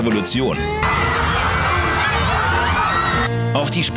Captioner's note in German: Jubel